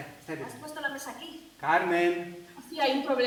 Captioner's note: Spanish